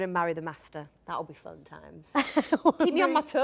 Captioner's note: Jodie laughs